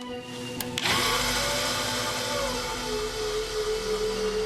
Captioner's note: machine whirring